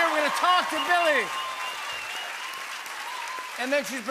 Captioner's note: cheers and applause